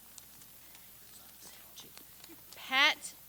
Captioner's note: whispers